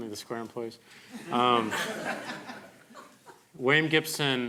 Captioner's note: crowd laughing